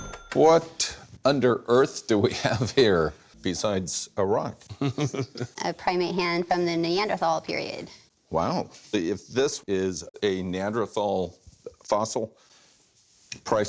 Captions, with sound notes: What under Earth do we have here, besides a rock? [chuckles] A primate hand from the Neanderthal period. Wow. If this is a Neanderthal fossil, priceless.